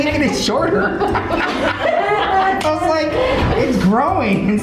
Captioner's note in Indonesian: Ketawa